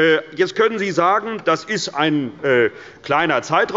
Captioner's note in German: none